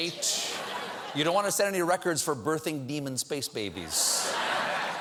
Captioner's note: laughter